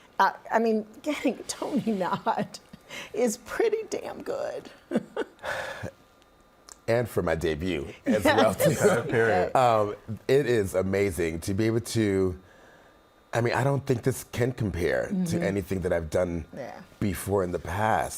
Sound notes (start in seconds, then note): 5.0 laughing; 5.4 sighs